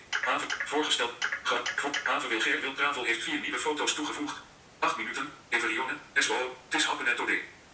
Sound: VoiceOver reads FaceBook timeline in quick tempo

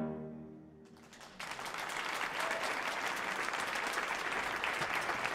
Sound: audience applauding

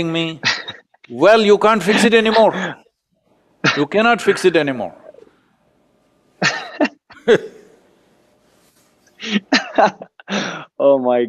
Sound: both laugh

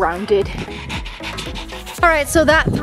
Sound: dog panting

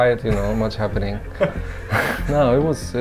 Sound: laughing

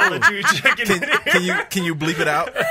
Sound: laughs

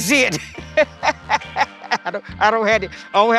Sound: laughs

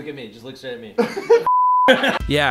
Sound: laughs and curses

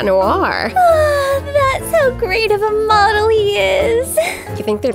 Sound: swooning

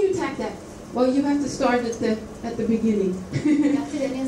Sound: laughs

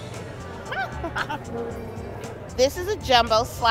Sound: laughs

